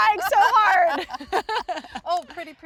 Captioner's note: both laughing